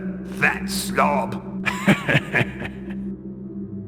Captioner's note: laughs